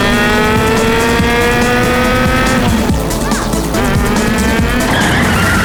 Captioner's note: cows mooing